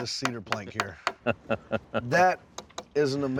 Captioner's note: chuckling